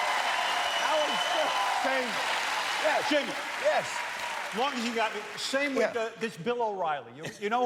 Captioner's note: cheers and applause